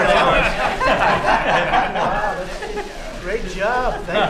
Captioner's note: laughter